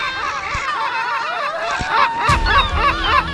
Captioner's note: gulls squawking; Ashlynn screaming; gulls squawking